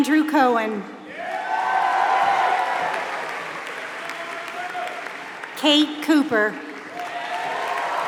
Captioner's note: applause